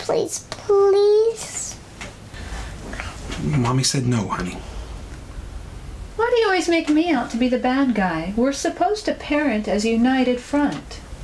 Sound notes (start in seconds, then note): none